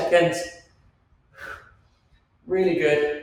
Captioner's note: Joe exhales